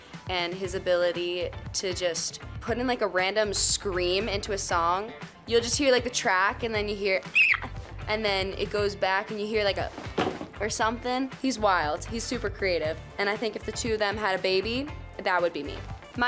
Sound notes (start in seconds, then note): 7.3 screams; 9.8 foot thumps